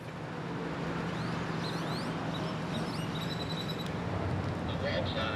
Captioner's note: birds chirping